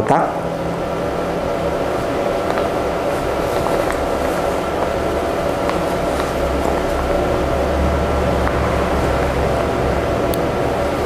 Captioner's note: folded shirt sound